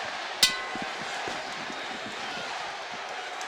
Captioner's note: bell rings